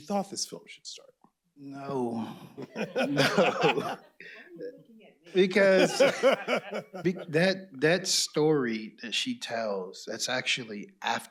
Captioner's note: laughter